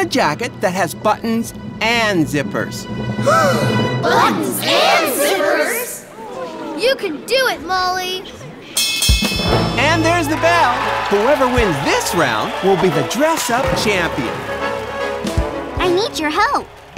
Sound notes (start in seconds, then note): 2.7 gasps; 8.7 bell ringing